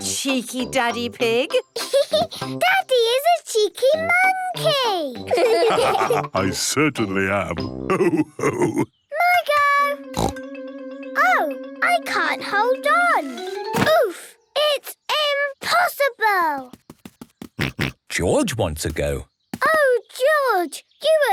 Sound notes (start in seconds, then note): 2.0 laughs; 5.2 all laugh; 10.2 snorts; 17.6 snorts